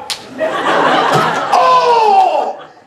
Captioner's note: Doc screams